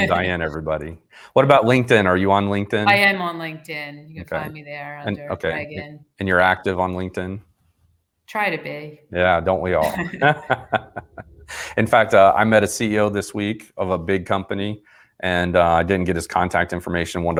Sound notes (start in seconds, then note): 9.8 laughing